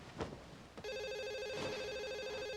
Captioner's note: phone ringing